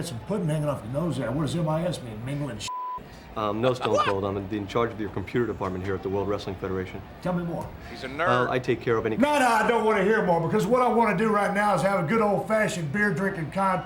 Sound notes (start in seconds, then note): 2.7 beep